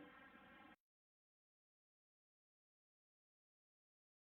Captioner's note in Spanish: silencio